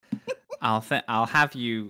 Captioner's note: laughs